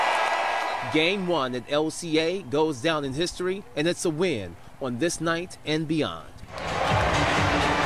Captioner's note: cheering and applause